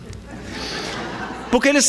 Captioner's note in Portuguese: risadas